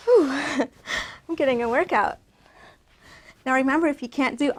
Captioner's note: breathes